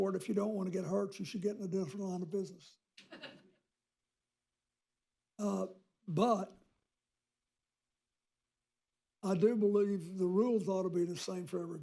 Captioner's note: laughter